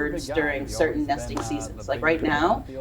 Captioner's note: background chatters